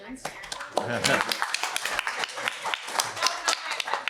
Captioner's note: applause